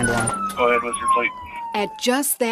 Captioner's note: siren blaring